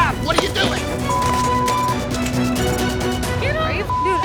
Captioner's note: beep